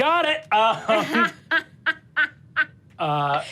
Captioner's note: Sofia laughs